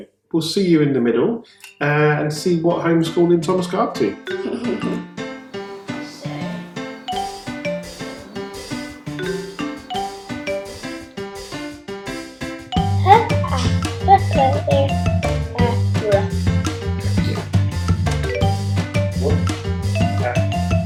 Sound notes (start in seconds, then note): 5.6 laughing